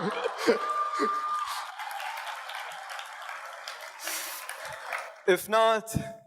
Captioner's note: audience cheers and applauds